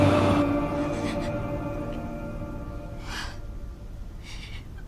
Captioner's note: crying